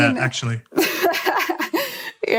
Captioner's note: laughter